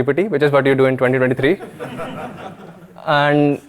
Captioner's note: audience laughing